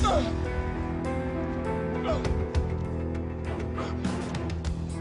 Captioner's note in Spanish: Quejidos